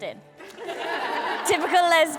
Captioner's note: guests laughing